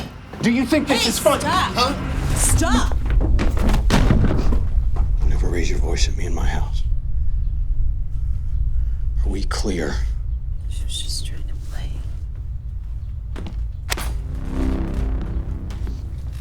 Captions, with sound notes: -Do you think this is funny? -Hey, stop. -Huh? -Stop. [loud thudding] Never raise your voice at me in my house. Are we clear? She-- she was just trying to play. [ominous rumbling]